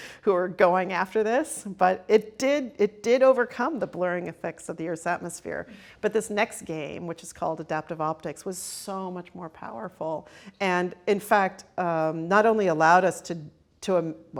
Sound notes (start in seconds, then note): none